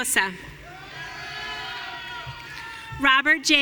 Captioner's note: audience cheering